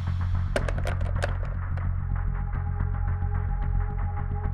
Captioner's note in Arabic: خشخيشات مقبض الباب